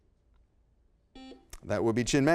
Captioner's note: buzzer beeps